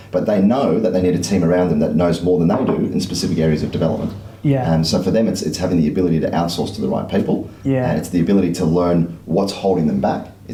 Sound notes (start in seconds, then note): none